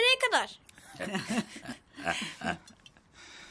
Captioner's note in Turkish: gülüyorlar